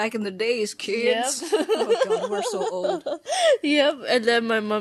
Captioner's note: again with the laughing